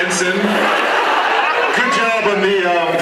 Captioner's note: laughs